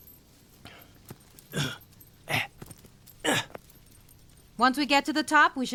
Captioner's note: footfalls lightly thudding; Elvis grunting